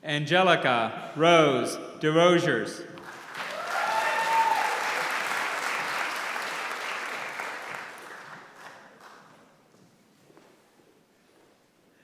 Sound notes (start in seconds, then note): 3.0 applause